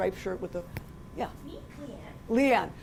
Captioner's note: voiceover